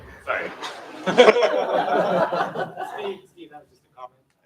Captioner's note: laughter